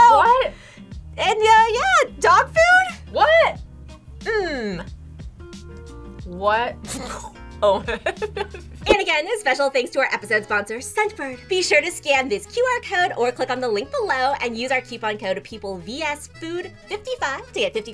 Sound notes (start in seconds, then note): 6.8 gags; 7.7 laughs